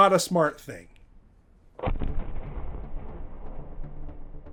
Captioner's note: thunderous booming